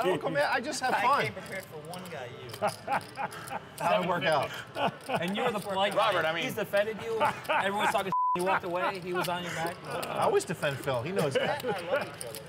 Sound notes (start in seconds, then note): 2.4 laughing